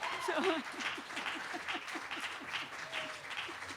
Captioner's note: applause